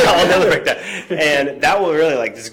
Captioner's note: laughing